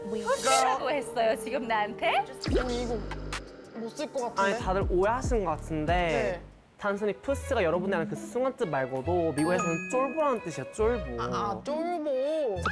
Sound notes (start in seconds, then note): 2.4 troubled sound effect; 6.8 english lesson BGM